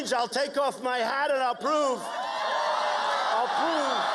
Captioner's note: cheers and applause